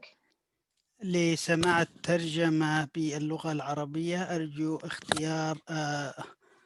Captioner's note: speaking in foreign language